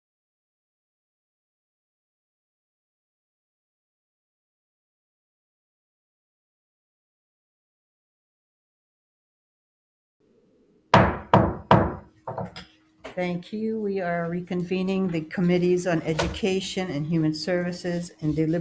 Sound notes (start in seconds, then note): 10.9 pounding gavel